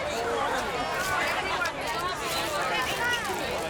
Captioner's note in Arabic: ثرثرة في الخلفية